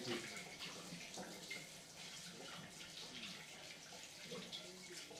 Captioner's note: water trickling